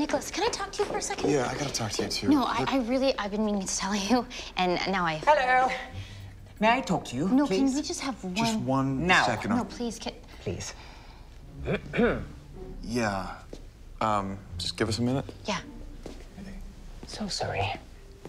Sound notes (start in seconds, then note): 11.6 Arthur clears throat